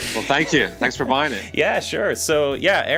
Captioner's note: laughs